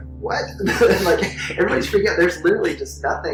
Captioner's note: laughs